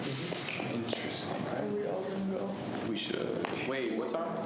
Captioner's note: students chatter